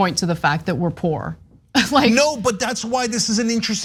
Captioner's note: laugh